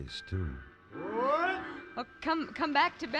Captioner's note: grunting